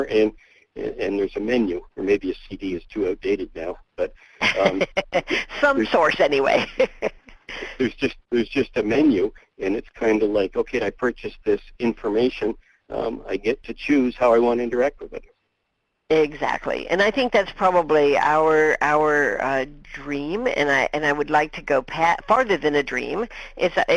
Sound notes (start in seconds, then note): 4.4 laughs; 4.7 voiceover; 16.4 voiceover